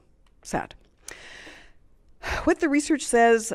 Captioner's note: deep sigh